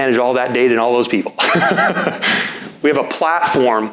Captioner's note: laughing